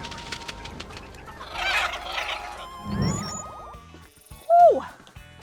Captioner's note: porgs chirping